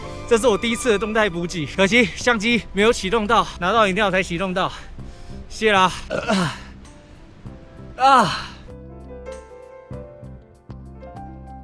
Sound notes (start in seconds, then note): 8.0 the Roar of Beasts